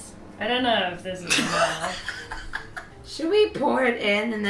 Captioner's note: laughs